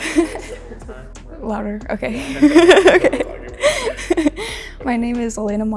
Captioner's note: giggling